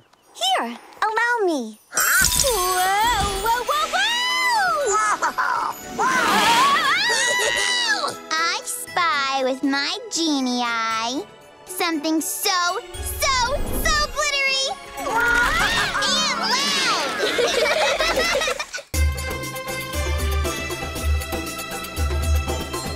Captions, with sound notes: Here, allow me. -Huh? -Whoa! Whoa, whoa, whoa! Whoa-ho-ho! Whoa! -Whoa! -Whee-hee-hee! I spy with my genie eye... something so, so, so glittery! -Whoa! -And loud! [all giggling] [bright music]